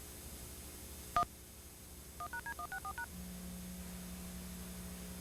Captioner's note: beep, speed-dialing